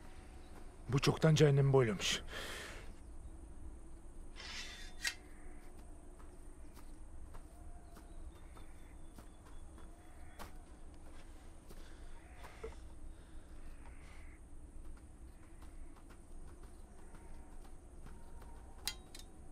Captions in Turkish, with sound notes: Bu çoktan cehennemi boylamış. (Kuş sesleri) (Rüzgâr sesi)